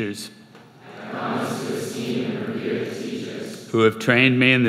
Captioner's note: crowd